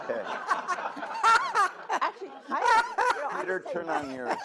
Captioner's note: all laugh